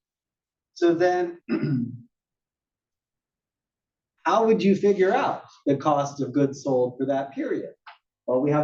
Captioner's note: cough